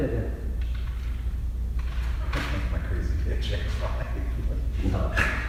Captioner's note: laughing